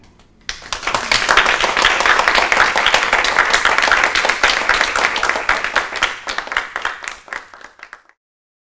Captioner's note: audience applause